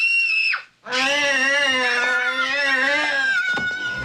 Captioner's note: little girl screaming; E.T. screaming